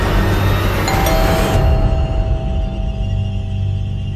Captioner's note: door bell